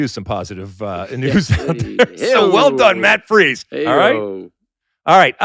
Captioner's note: laughs